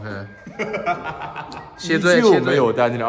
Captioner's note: Scone villain laughter